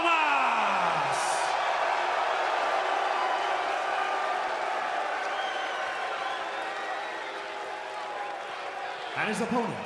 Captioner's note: crowd cheering